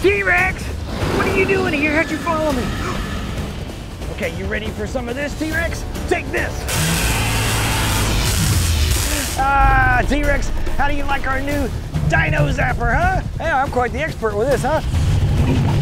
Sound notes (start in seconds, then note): 6.6 weapon zapping; 6.8 T-rex growling